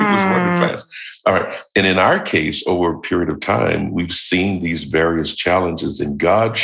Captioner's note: chuckle